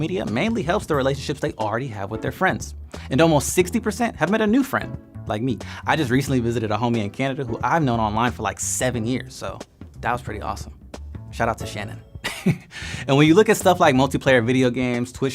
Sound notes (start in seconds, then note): 12.2 laughing